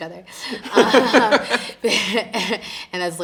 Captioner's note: both laughing